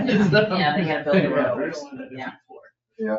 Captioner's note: members laugh